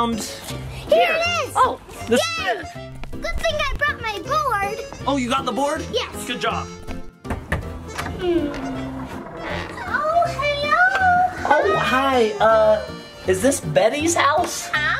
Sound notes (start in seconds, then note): 7.1 knocks on door